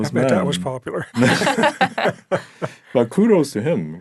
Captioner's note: all laughing